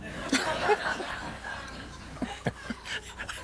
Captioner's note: all laughing